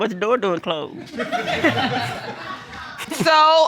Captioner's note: audience laughing